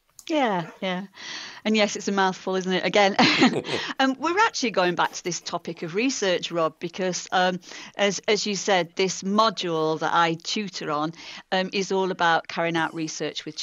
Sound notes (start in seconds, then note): 3.2 laughter